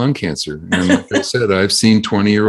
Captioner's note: laughs